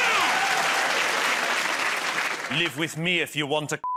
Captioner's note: cheers and applause